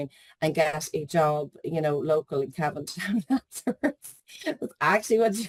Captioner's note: laughs